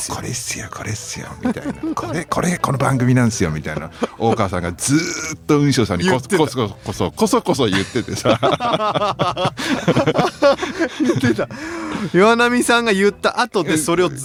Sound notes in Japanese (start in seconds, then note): 0.0 笑い; 7.6 笑い